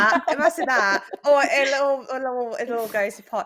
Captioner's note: all chuckle